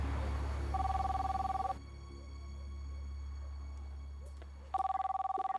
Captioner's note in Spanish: suena el teléfono